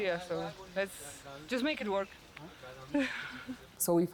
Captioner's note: laughs